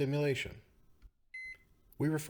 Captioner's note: beeping